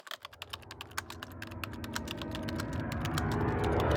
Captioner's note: typing